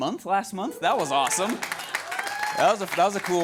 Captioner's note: audience cheers and applauds